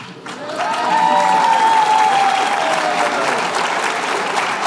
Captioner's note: cheers and applause